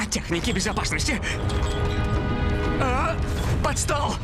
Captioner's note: glass rattling